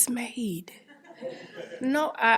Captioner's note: audience laughing